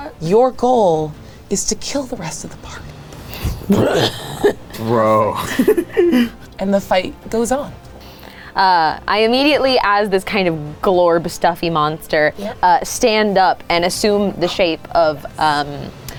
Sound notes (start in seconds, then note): 3.6 laughs; 3.7 growls then laughs